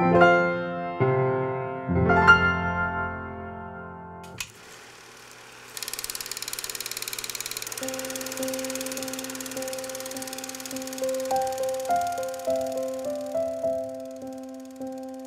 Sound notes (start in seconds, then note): 6.6 film tape advancing; 7.8 soft music